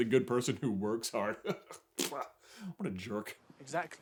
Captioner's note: chuckles